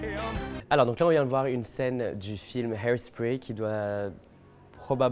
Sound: speaking French

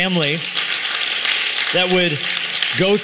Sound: applause

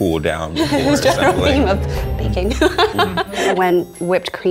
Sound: laughs

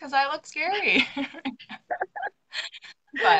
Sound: both laughing

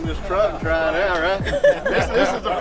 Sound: laughing

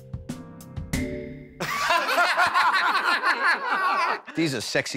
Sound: laughter

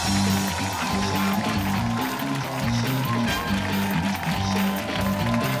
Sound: cheers and applause

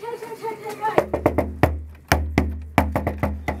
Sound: knocks on Door

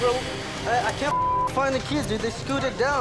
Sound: beep

